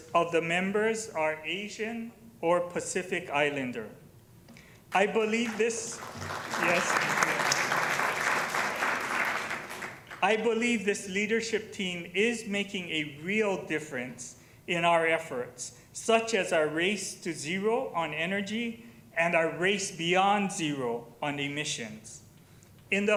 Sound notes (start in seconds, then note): 8.5 applause